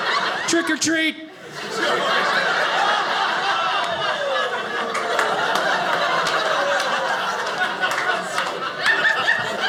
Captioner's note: audience laughing